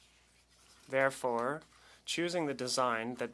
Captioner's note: speaking French